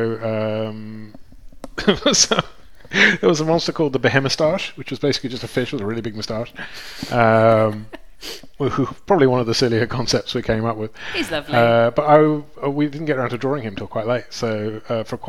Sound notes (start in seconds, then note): 2.7 laughs